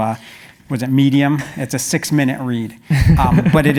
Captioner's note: laugh